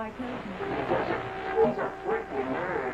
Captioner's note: electricity buzzing